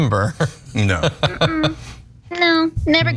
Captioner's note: laugh